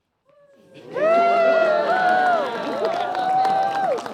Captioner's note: cheering